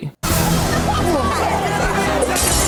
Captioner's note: intense music; everyone screaming; glass smashes